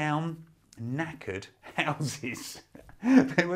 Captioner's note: laughing